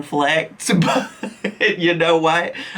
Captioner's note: giggles